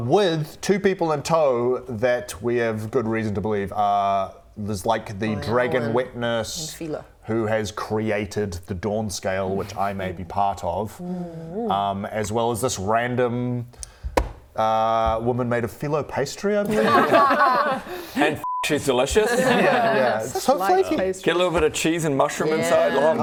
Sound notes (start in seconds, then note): 16.6 unleavened laughter